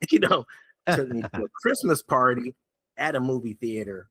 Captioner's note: laughing